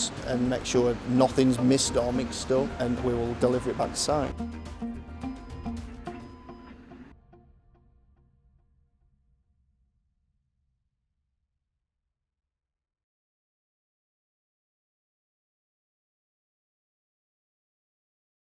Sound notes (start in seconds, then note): 4.9 forklift buzzing; 4.9 gentle music